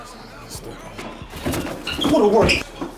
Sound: mutters

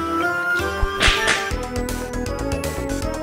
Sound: smack

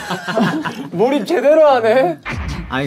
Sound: haha

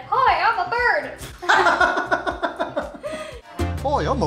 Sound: laughter

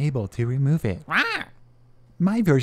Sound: angrily Squawking

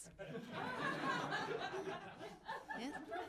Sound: laughter

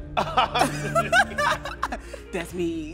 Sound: both laughing

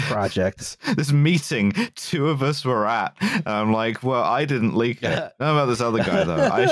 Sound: laughing

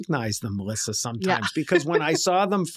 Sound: chuckles

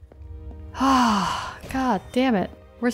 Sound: sighs

